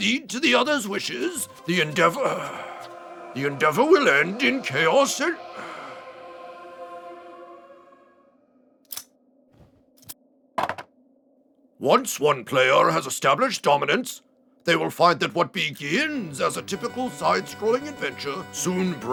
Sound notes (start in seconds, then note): 2.7 sigh; 8.3 sigh